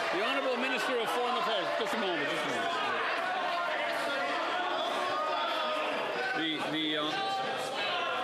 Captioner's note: applause